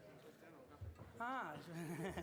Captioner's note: non-english; laughs